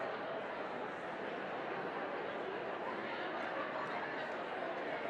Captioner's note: audience talking and laughing